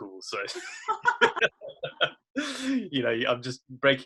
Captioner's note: both laugh